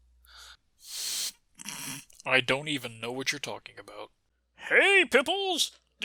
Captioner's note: snort